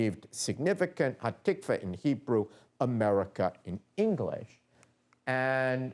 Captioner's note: non-english speech